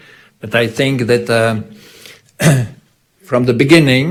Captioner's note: clears throat